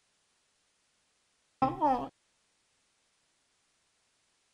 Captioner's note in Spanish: Sonido de colegiala de anime